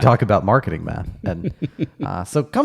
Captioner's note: laughing